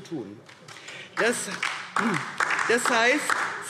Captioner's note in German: Beifall DIE LINKE